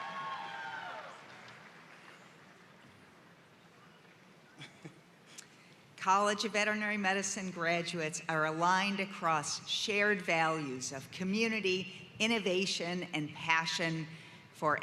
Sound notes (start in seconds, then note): 0.0 cheering and applause